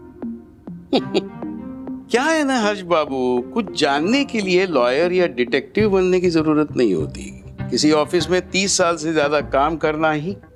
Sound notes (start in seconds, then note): 0.9 chuckles